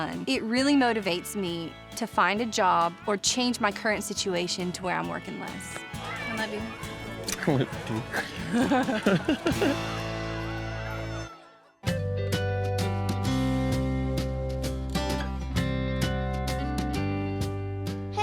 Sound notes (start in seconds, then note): 7.6 both giggling; 8.0 smooch